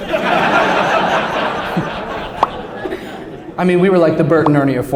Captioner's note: laughter